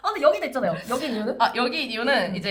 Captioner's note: laughs